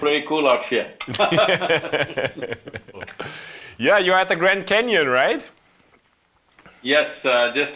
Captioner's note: laughs; both laugh